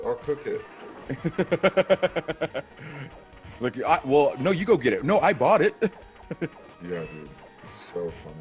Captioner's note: laugh